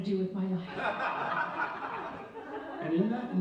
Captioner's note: audience laughs